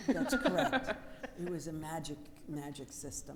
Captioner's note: all laughing